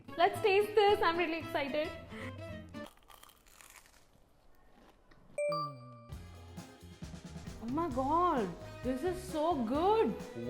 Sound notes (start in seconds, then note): 2.8 crunching